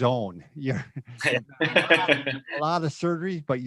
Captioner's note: both laughs loudly